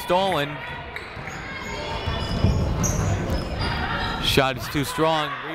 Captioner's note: people shouting in the crowd